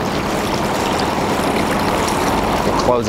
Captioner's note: water sloshing